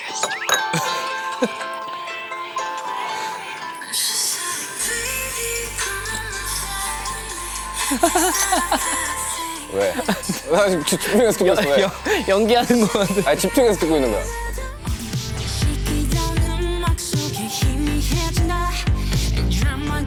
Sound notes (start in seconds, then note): 7.7 haha